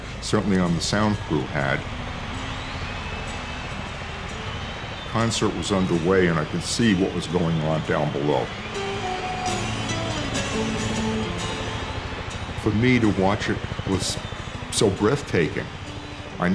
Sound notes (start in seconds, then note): 2.3 crowd cheering; 8.4 gentle rock music